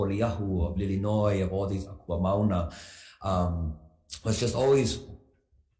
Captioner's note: speaks foreign language